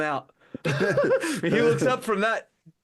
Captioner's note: laughing